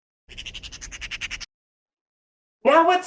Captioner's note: raven croaking